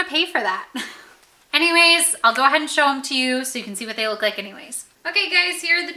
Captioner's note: laughs